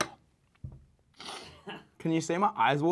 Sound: laughs in background

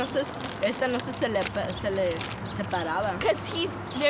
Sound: speaking Spanish

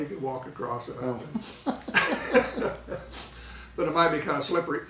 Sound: laughing

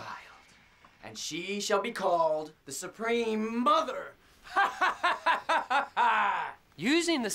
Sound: laughs

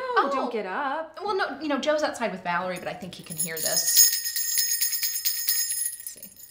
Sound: bell jingling sound

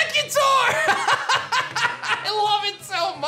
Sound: laughs

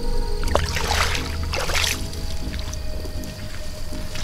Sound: water splashing

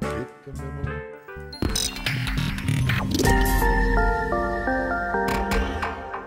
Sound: outro Sound Effects

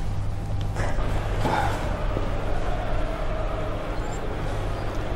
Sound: crowd sound from the TV

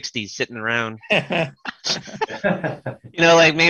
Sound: laughter

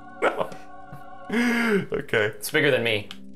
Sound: inhale

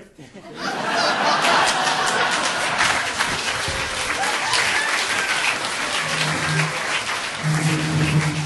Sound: audience laughing and applauding

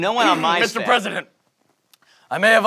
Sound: coughing

